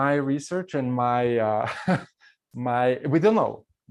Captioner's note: laughs